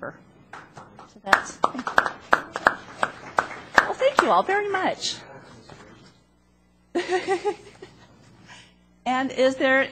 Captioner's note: applause